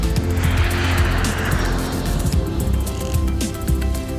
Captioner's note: plane soaring